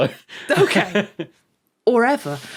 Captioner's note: chuckles